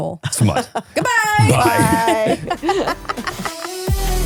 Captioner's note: all laughing; upbeat music